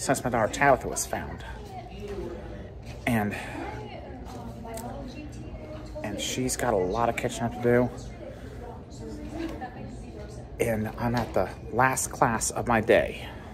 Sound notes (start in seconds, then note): 1.3 students chatting in the Science Building